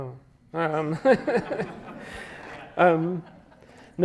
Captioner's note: chuckles